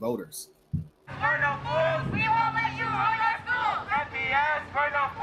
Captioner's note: protesters chanting